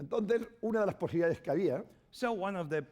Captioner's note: speaking spanish